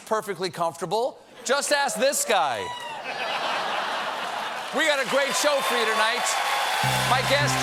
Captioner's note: laughter